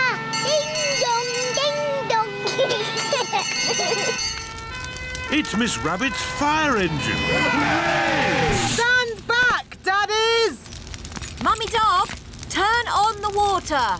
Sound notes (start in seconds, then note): 2.5 children giggling; 4.2 siren blares; 6.8 all cheer